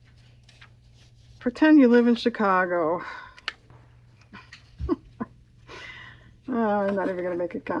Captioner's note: laughs